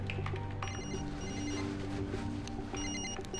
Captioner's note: cell phone ringing